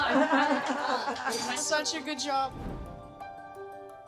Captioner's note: chatter & laughter